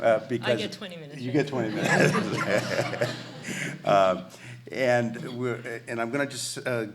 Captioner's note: laughs